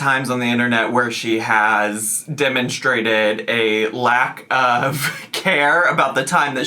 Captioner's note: chuckling